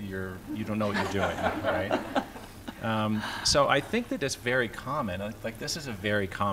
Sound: laughter

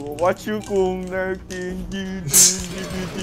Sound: zzzzzzzzzzzzzzzzz

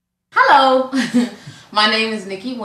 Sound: laughs

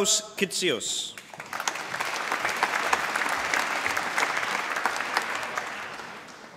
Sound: applause

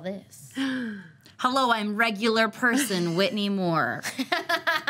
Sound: gasps; laughs

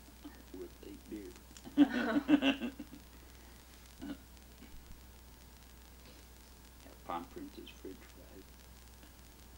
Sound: laughs

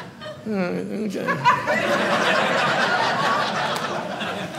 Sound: audience laughing

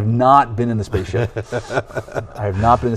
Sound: laughing

